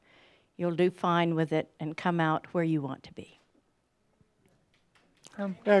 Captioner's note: some applause